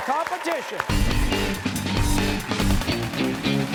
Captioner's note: cheers and applause